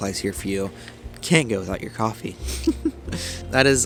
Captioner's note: giggles